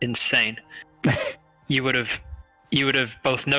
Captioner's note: laughs